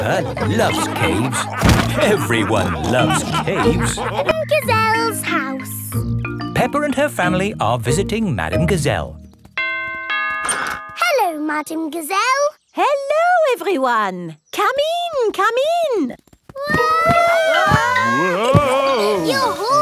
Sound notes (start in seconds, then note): 0.0 all laughing; 9.6 doorbell rings; 17.0 all yelling